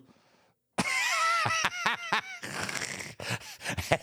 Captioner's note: Michael laughs